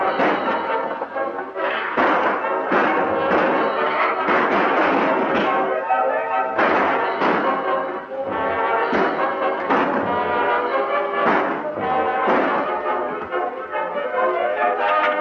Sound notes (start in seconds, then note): 11.1 guns firing